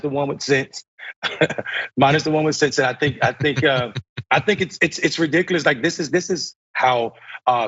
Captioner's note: laugh